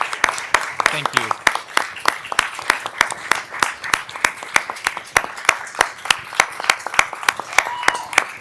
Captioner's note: applause